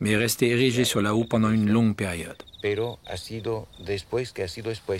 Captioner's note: Spanish spoken audio